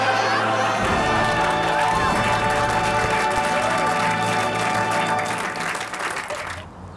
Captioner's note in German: Lautes Gelächter und Applaus